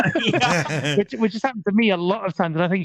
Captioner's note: laughing